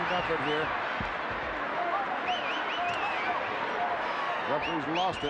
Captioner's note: crowd yelling